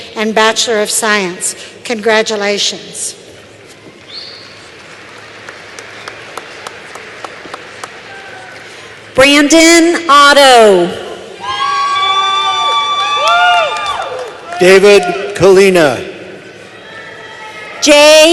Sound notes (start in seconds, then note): 4.5 applause